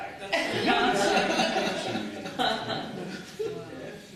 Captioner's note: laughter